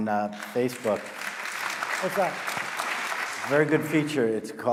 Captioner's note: audience applauding